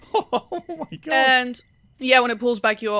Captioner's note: laughing